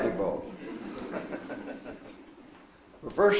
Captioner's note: audience laughs